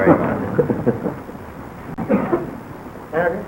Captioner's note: laughter